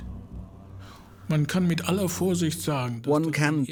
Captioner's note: speaking German